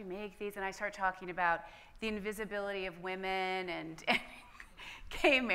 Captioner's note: laughs